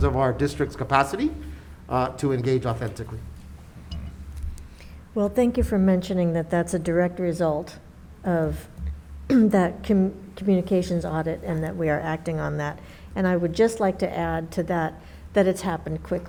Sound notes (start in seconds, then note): 9.2 clears throat